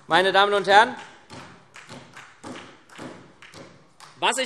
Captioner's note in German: Beifall SPD